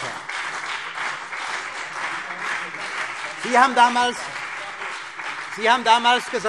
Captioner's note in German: Heiterkeit - Beifall CDU und BÜNDNIS 90/DIE GRÜNEN